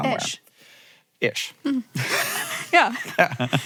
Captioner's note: laughs